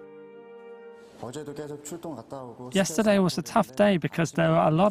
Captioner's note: Korean